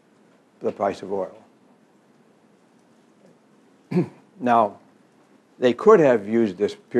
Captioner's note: cough